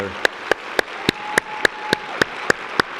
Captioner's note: applause